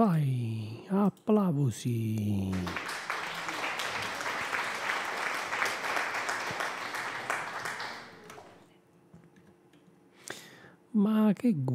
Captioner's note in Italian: Applauso